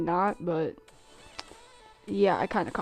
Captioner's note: tsk